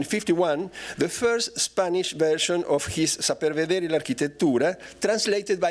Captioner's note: non-english speech